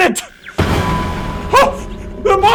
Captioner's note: clang